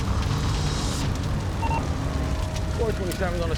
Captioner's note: radio beeps